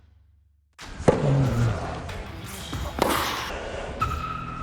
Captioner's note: ball thumping